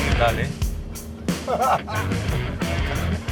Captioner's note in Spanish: Risas